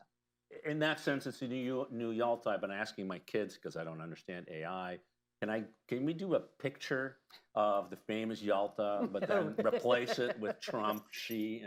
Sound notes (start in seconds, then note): 8.8 laughter